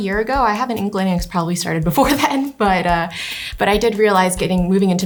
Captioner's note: chuckles